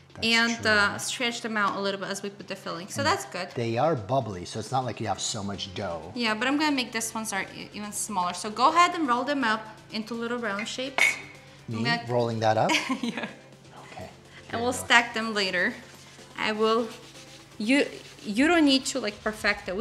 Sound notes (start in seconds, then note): 13.0 laughs